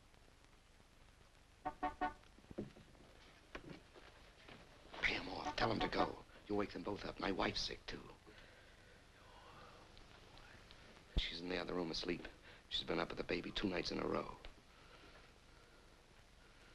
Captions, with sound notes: (car horn honks) Pay him off. Tell him to go. You'll wake them both up. My wife's sick too. She's in the other room asleep. She's been up with the baby two nights in a row.